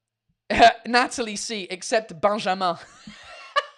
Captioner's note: laughs